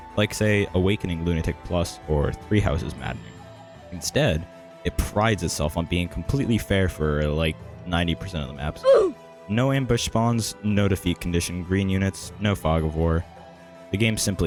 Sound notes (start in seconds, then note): 8.8 oof sound effect